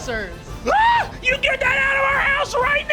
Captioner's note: gasps and screams